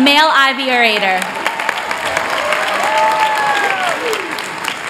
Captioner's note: applause